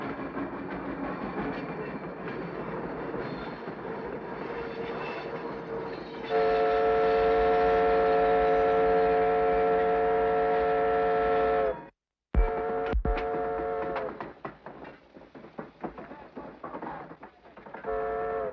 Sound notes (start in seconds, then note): 6.2 train horn whistles